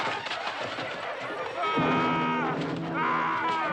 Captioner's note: screaming